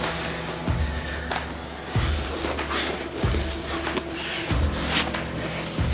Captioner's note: both breathing heavily